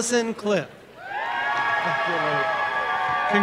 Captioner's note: applause and cheering